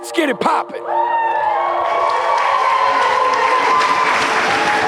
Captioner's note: spectators applauding